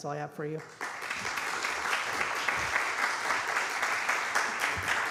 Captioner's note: applause